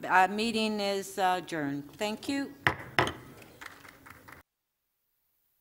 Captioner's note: gavel